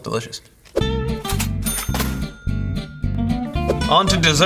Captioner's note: cash register ding